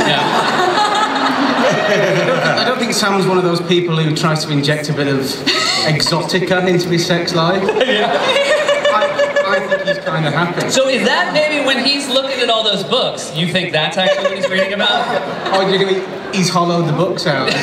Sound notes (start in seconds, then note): 0.0 laughter; 7.5 laughter